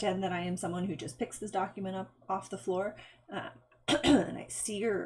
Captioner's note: clearing throat